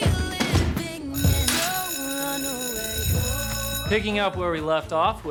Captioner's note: school bell rings